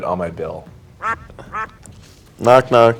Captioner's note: duck quacking